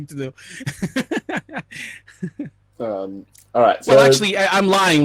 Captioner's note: laughing